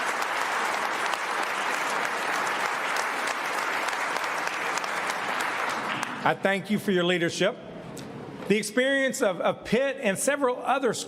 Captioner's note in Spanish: aplausos